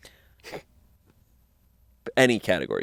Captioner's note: snickers